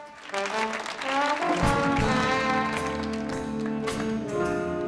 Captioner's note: audience applauding